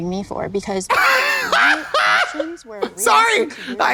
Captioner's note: blonde Women hee-haw